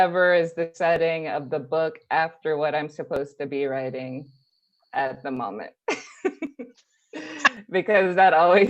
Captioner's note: laughs